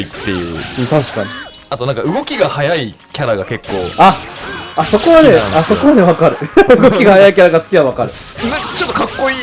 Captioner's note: laughs